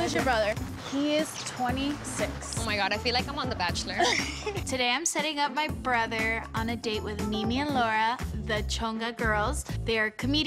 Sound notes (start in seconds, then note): 4.0 laughs